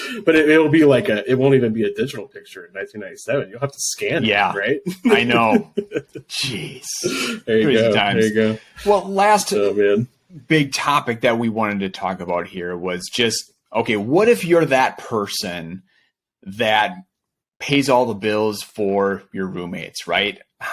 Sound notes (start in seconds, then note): 6.8 laughing